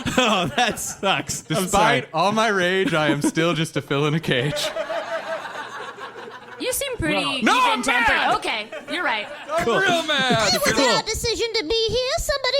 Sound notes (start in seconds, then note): 0.0 laughter from audience and cast; 4.5 audience laughter